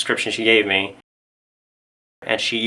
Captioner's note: muted